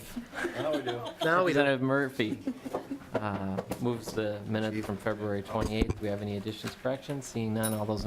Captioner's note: laughing